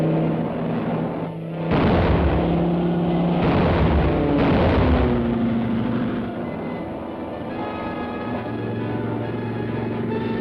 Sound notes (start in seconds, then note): 1.7 bombs blasting; 7.3 thrilling music